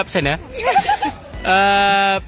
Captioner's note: chuckling